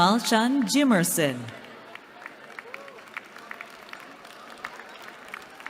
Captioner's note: applause